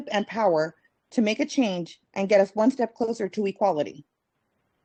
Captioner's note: speaking Spanish